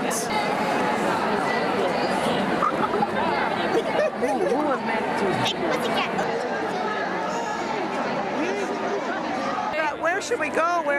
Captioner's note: crowds cheering